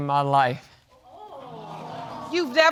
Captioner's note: audience exclaiming